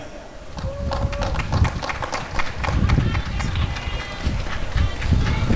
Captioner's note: applause and cheering